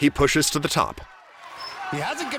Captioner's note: buzzer blares